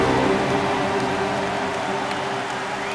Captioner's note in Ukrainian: Натовп тріумфує